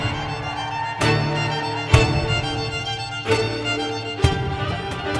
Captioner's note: audience cheering